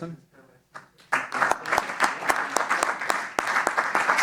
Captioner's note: applause